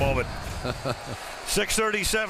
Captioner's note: laughs